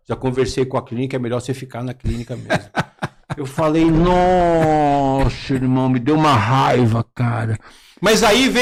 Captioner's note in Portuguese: risadas